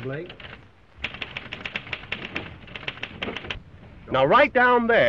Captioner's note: typewriter clacking